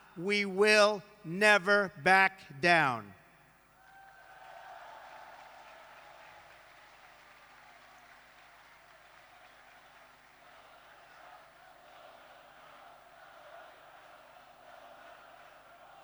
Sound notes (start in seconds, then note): 3.7 applause